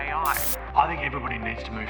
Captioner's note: radio static